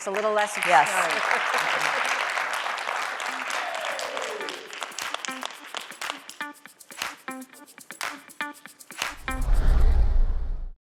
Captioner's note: applause